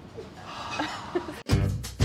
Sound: sighs; upbeat music

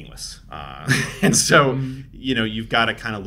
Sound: laughs

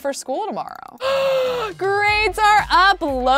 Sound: gasping

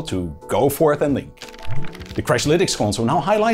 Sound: pages flipping

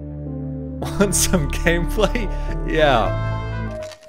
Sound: laughs

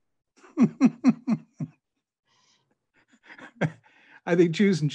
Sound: rabbi chuckling

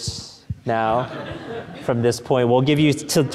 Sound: audience laughing

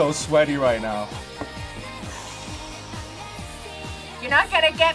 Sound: sighs

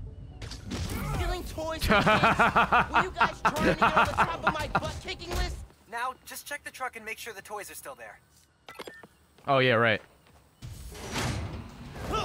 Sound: laughs

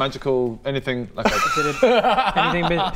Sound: cheeky laugh

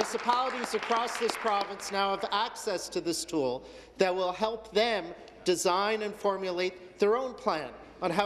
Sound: applause

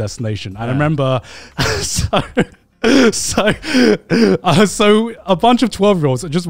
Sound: laughs

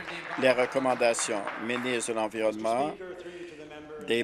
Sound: applause

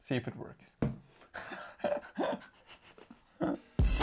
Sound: laughs

